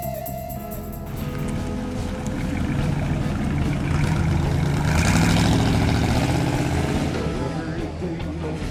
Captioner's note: vehicles